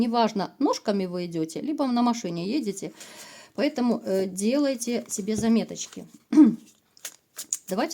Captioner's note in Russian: откашливается